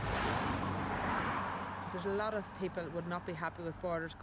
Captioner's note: cars drive